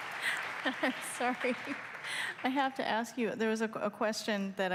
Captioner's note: applause